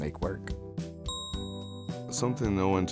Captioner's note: bell dings